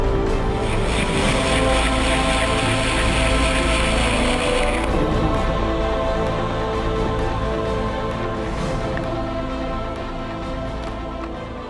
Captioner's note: auger whirring